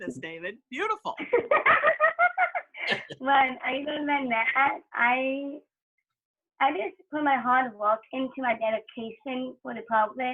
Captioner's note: laughter